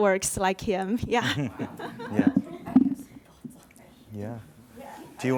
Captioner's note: giggles